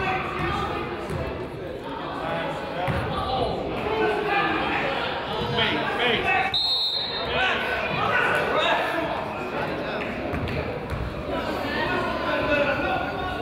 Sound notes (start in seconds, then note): 4.3 crowd chatters; 4.3 whistle blows